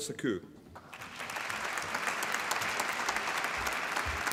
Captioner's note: applause